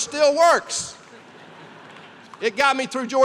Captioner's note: laughter